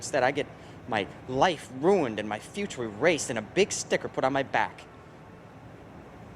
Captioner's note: none